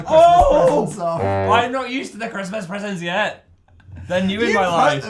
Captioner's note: laughs; fail sound effect